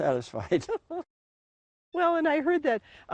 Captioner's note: laughing